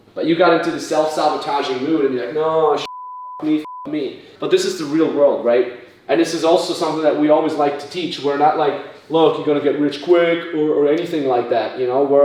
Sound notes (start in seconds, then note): 2.8 beep